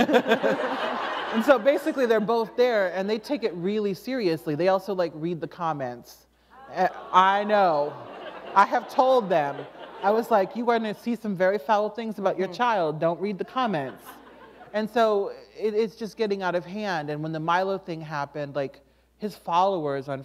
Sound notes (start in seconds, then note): 0.0 laughter; 6.6 laughter